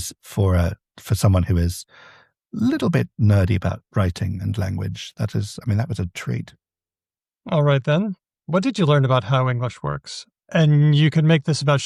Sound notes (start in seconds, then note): none